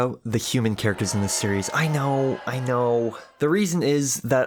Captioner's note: booing